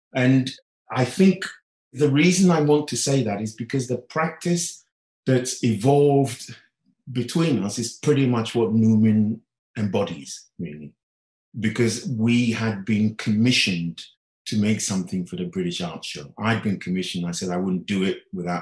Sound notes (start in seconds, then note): none